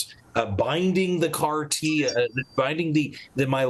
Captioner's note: phone beeps